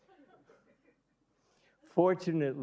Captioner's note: audience laughing